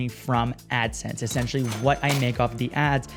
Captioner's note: cashier register clacks